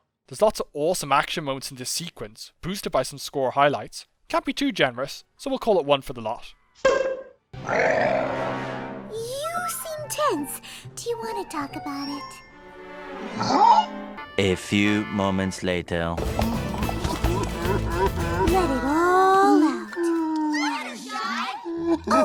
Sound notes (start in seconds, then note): 7.6 growls; 16.9 sobs